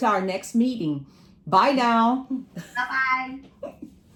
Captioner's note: laughing